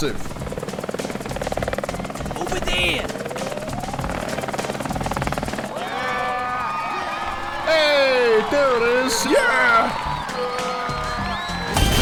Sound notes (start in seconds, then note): 5.5 crowd cheering